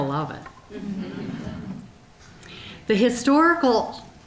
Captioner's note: audience chuckling